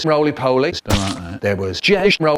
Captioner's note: blood Splat